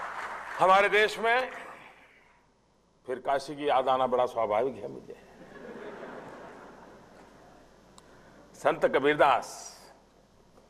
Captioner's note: people laugh because Benares is his constituency